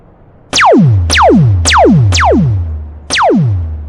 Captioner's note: lasers blasting